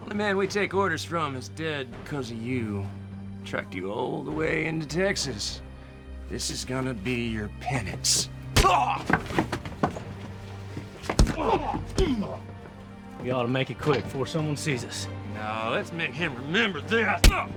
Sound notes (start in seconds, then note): 8.7 groans; 11.1 grunting